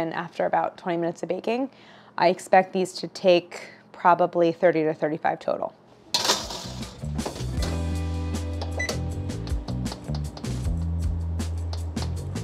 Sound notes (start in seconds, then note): 6.1 tray clatters; 9.6 gentle music